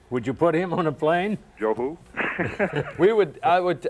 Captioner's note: laughs